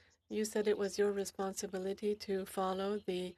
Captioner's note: speaking French